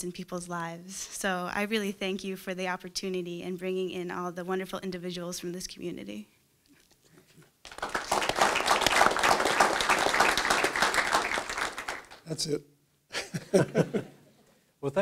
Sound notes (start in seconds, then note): 7.6 clapping; 13.2 laughing